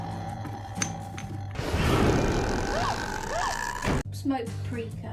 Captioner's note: The Grudge noise